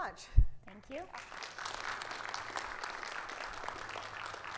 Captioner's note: crowd claps